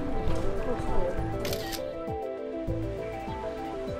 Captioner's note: camera snaps